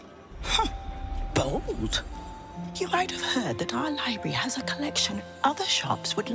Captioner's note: whispers